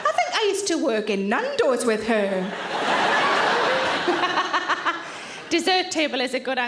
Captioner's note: audience laughing